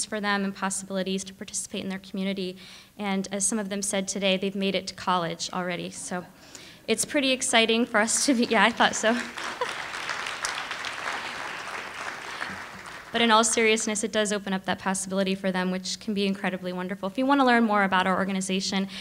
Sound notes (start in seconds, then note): 5.6 audience laughing and applauding